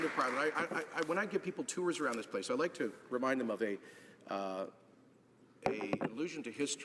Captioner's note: applause